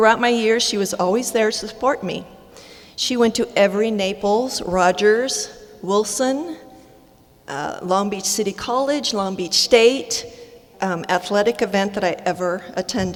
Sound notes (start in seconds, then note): none